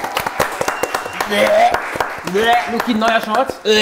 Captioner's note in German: Würgen